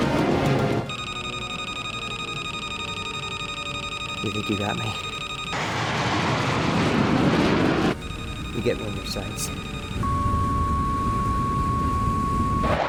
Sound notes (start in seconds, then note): 0.9 radio beeping; 5.0 aircraft whirring; 10.0 radio beeps; 12.6 aircraft whirring